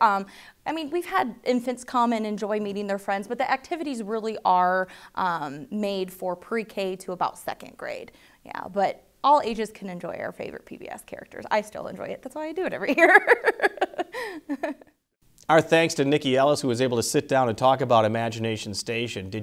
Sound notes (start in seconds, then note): 12.9 laughs